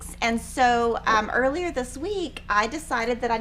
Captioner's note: none